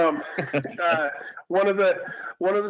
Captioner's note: laughter